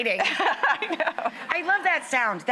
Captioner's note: laughs